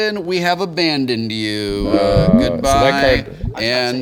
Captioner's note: water bubbling